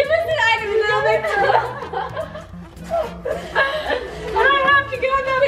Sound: girls laugh

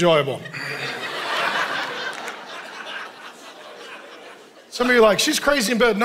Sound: congregation laughing

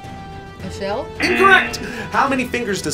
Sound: buzzer blares

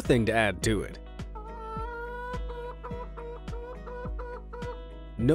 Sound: hen clucking

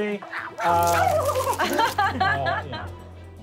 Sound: silly animal noises; laughing

